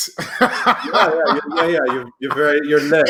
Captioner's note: laughing